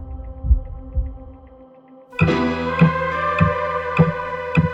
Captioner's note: heart beating; suspenseful music; lively music